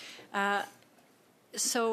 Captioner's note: speaking in French